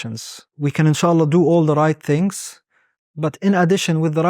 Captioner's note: speaking Arabic